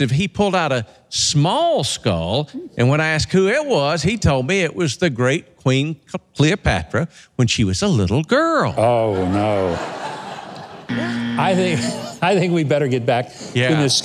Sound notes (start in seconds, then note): 8.8 audience laughs; 10.8 buzzer sounds